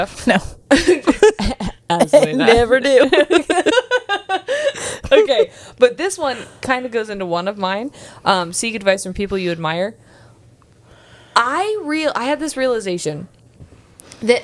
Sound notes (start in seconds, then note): 3.4 panel laughing